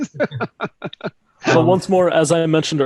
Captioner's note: laughs